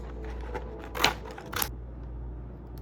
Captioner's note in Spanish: plastic crinkling